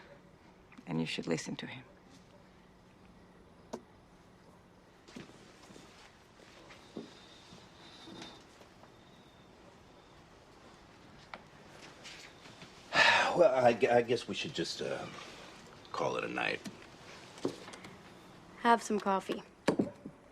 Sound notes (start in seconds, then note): 12.9 sighs